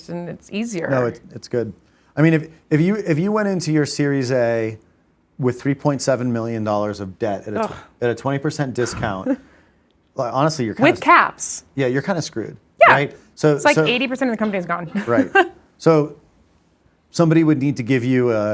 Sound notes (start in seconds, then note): 7.6 groans; 14.9 laughs